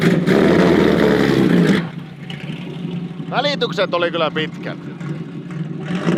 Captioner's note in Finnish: moottorin ääni